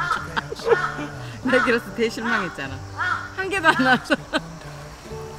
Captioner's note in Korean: 웃음